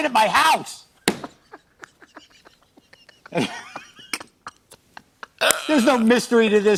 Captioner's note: laughter